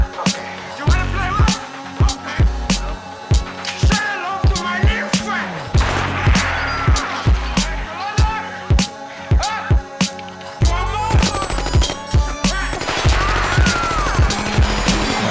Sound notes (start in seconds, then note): 5.7 gunshots; 11.1 rapid gunfire